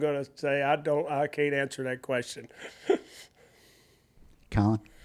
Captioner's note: laughs